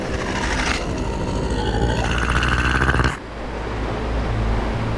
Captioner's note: critter chattering